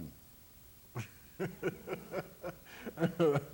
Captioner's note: laughs